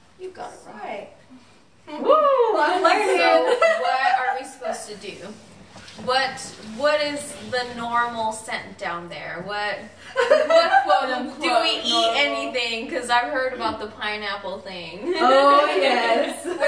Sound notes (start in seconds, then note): 3.0 laughs; 10.2 laughs; 16.2 girls laughing